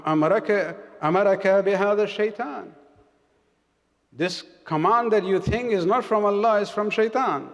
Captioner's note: arabic